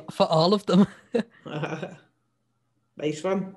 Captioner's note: chuckles